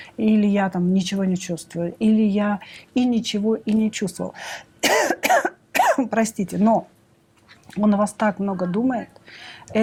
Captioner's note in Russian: кашель; откашливается